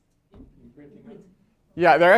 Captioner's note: voiceover